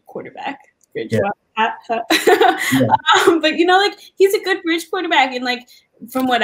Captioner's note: laugh